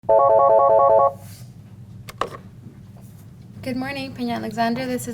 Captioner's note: telephone ringing